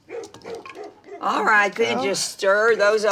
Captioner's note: dog barking